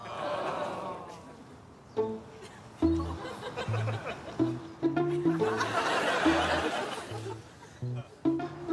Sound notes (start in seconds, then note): 1.1 audience disappointed